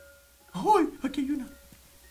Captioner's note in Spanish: Sorprendido